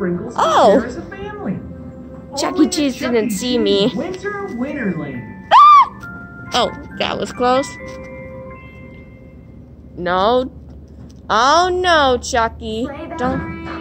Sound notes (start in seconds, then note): 5.5 scream